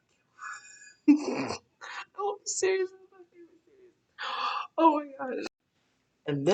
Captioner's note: laughing